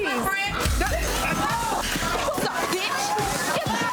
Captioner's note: overlapping chattering